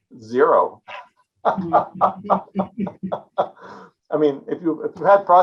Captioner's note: presenter laughing